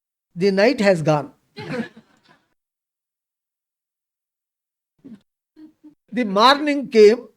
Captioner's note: laughs